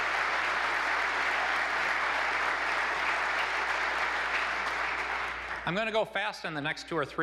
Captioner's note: applause